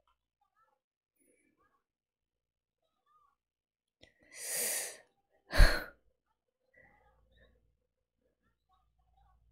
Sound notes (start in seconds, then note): 4.4 sharp inhale